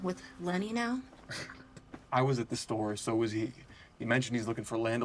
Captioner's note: scoffs